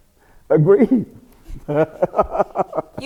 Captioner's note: laughs